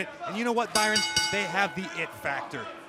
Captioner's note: bell